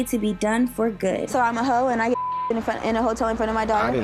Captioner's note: beep